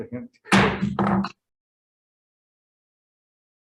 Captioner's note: gavel thuds